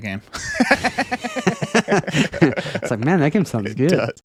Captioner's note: laughing